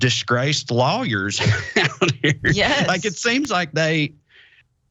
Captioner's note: laugh